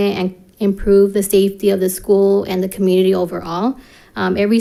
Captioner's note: none